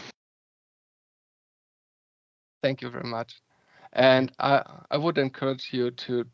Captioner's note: silence